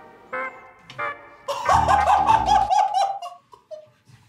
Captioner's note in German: lautes Lachen